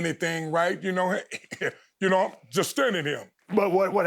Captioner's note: chuckling